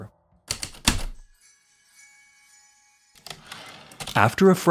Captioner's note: heavy typewriter keystrokes, light chimes, typewriter return slide